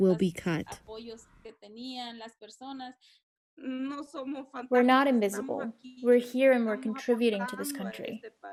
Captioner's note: through translator